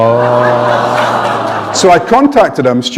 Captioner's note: laughter